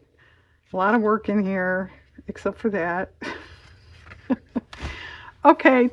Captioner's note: laughs